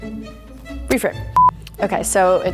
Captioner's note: beeps